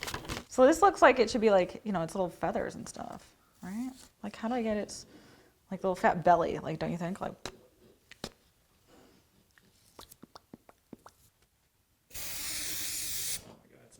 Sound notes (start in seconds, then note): 8.9 makes puffing noise; 12.1 adhesive can hisses